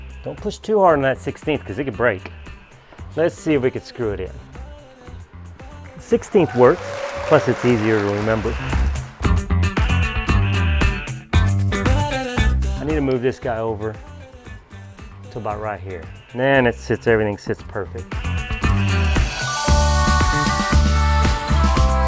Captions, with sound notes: Don't push too hard on that 1/16th 'cause it could break. Let's see if we could screw it in. 1/16th works. (audience applauding) Plus it's easier to remember. (upbeat pop music) I need to move this guy over to about right here. Then it sits, everything sits perfect. (upbeat pop music)